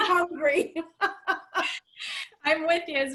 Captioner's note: laughter